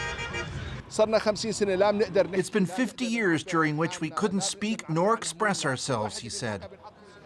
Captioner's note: speaking alternate language